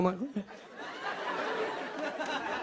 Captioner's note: laughter